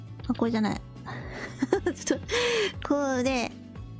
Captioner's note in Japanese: 笑い声